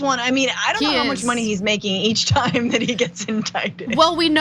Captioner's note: laugh